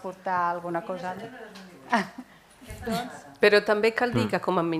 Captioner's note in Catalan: parla fora de micro